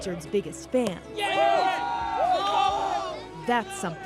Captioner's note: cheering